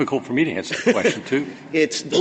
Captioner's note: laughter